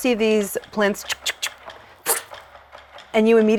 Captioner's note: mimics arrow zipping